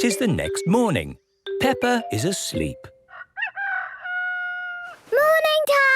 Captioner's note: cock-a-doodle-doo